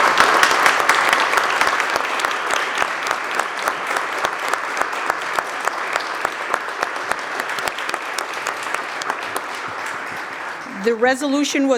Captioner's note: applause